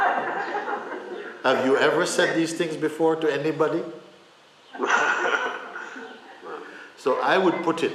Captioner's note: laughter; laughter